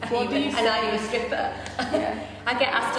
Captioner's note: laughs